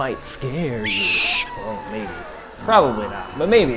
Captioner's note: ominous shriek